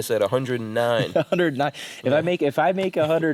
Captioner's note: laughs